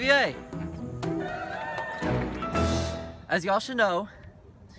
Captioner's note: cheering